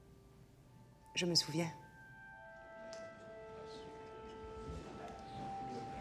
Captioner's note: speaking foreign language